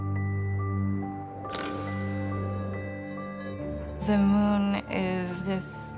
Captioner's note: shutter clicks